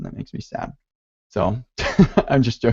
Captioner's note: laughs